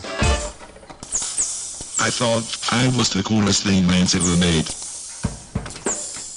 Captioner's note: robot voice